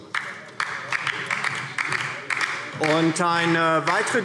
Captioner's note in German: Beifall DIE LINKE